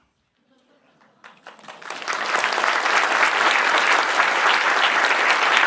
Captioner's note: applause